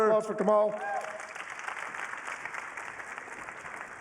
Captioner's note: applause